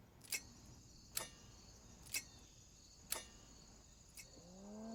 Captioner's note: metal clicking